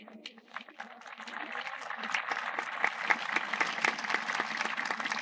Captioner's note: audience applauding